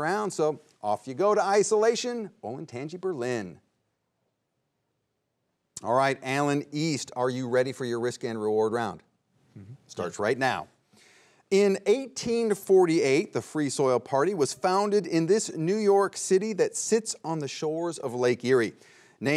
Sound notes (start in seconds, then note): none